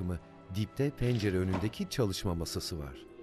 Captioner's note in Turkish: Kapı kapanma sesi